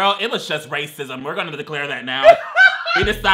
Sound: laughs

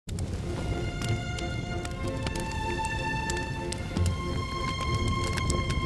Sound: fire crackling; classical music

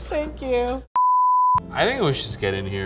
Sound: beep

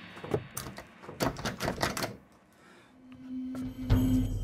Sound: ominous music; door rattles

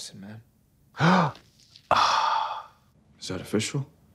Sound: Katya gasps

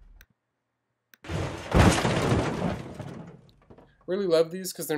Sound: metallic slamming and crunching; heavy metallic thudding and crunching

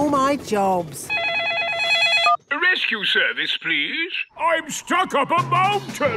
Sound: phone ringing

